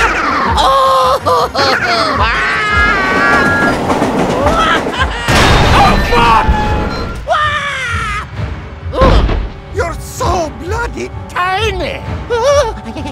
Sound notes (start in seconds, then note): 5.1 blam